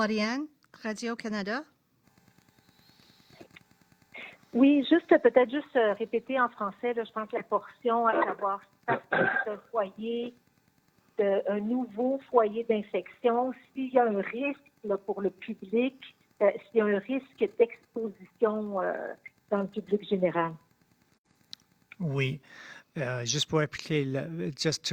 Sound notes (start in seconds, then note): 4.6 speaking French